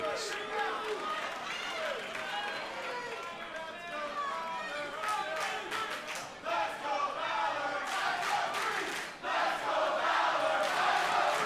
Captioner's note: crowd cheering